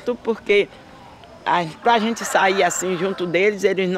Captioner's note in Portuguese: galo cantando